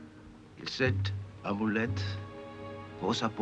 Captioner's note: speaking french